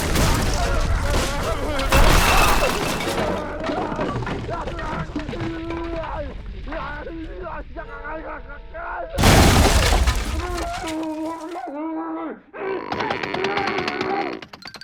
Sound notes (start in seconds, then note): 0.2 screaming, banging; 1.9 crashing, yelling continues